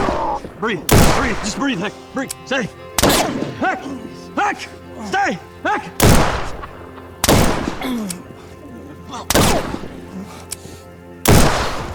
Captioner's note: clears throat